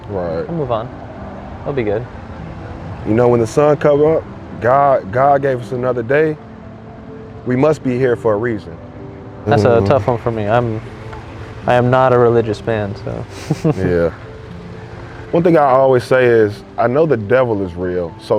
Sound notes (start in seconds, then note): 13.3 chuckle